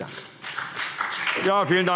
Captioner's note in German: Beifall CDU und BÜNDNIS 90/DIE GRÜNEN